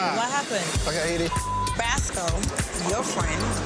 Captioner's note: beep